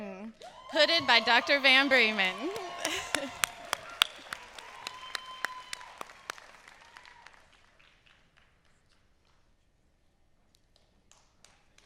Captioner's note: applause